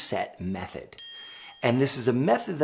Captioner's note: bell dinging